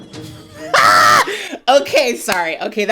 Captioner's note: laughing